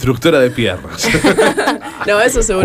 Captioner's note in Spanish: risas